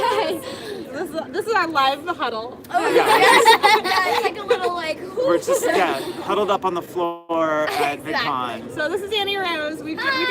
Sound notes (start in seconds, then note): 2.8 laughter